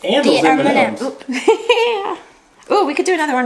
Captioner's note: laughs